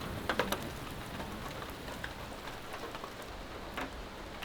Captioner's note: rain falling